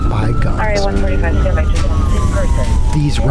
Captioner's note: radio chatter, siren wailing